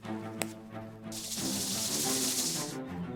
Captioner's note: sound of snake rattle